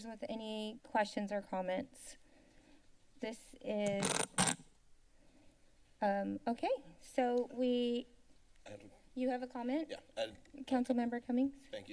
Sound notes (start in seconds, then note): 1.9 silence; 3.9 mic glitch; 7.8 silence